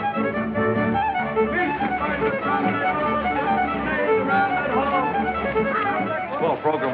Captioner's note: hollering